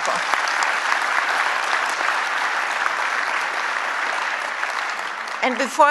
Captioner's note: applause